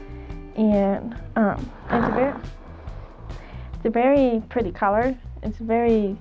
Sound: Buckshot sighs

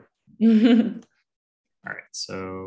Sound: chuckles

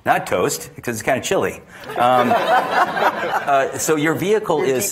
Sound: attendees laughing

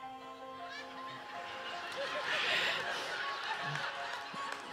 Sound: audience laughing

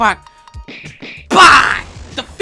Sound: grunts violently

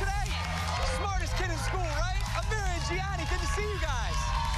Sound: cheers and applause

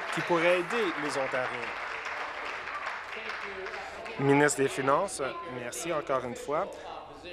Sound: applause

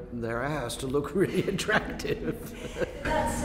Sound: laughs

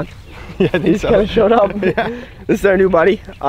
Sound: laughing

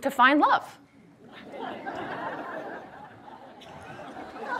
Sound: audience laughs

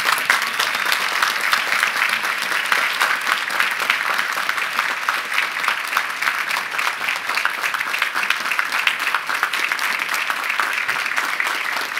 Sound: applause

